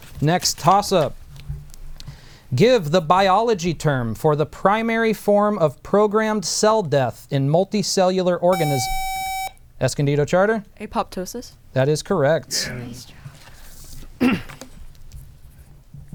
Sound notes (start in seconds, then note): 8.5 buzzer